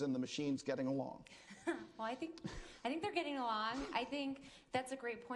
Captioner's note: chuckles